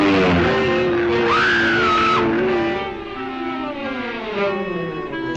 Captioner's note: engine rumbling; Lois screams